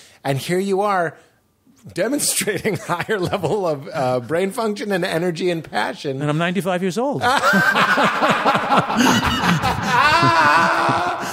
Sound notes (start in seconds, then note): 2.2 laughs; 7.2 laughter